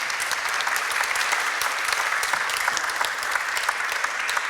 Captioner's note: audience applauding